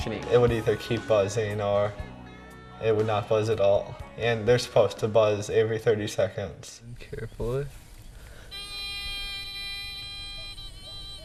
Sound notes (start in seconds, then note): 8.5 buzzing